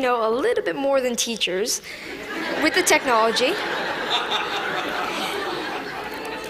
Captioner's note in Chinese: Laughter; 笑聲